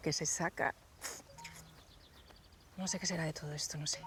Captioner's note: cell phone notifications